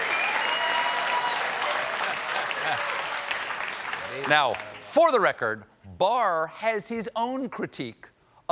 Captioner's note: cheers and applause